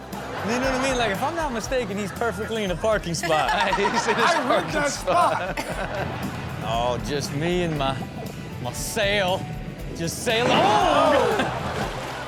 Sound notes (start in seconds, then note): 3.1 laughs